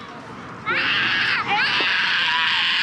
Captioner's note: wailing